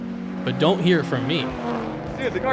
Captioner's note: engine revving